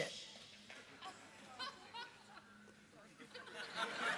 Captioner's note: light laughter